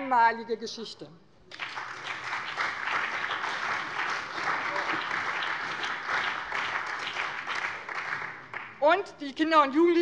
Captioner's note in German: Beifall bei dem BÜNDNIS 90/DIE GRÜNEN und der CDU